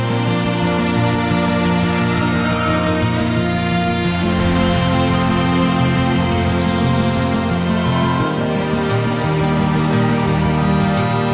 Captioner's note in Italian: Applauso